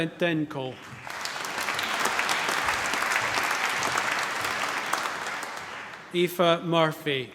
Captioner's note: applause